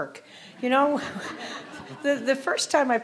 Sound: audience laughing

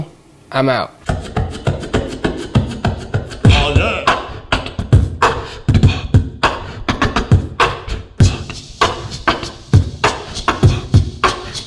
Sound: beatboxing

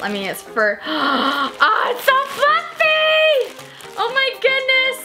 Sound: gasps

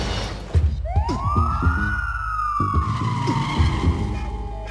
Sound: tires squealing; police sirens wailing

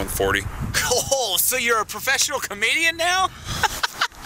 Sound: laughs

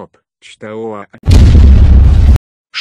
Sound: boom!

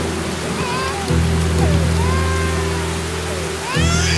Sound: baby crying

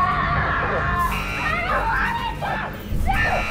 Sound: screams

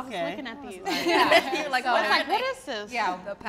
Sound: all laugh

